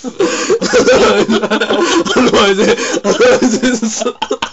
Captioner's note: they laugh; laughs hard